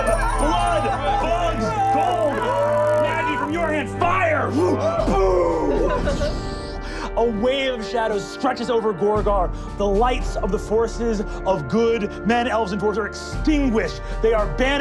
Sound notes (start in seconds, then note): 6.2 wooshing